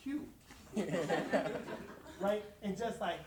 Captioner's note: audience laughs